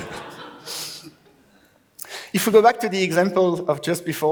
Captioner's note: laughs